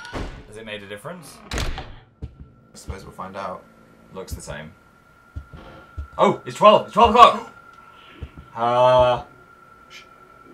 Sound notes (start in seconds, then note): 8.5 wails